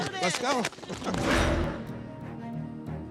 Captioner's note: applauding; dramatic music